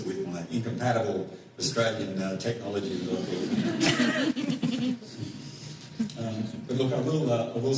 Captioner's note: laughter